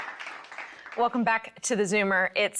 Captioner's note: audience applauds